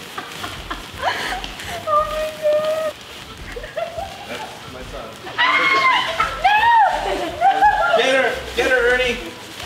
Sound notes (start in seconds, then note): 0.0 laughs; 5.3 girl screams